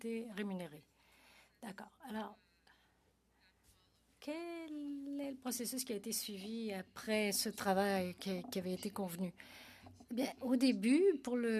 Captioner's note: speaking French